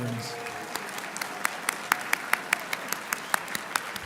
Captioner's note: applauding